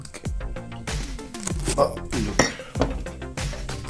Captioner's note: ugh